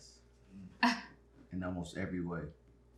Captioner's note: Erica scoffs